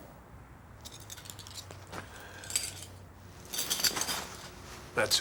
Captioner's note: dog tags rattling